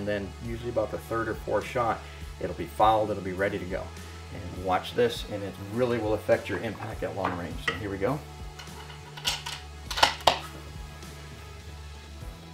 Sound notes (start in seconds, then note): 8.6 loading gun